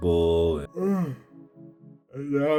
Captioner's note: groaning